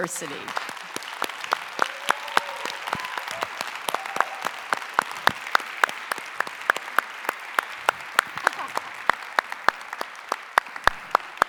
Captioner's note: applause